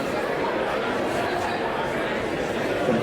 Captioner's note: crowd noise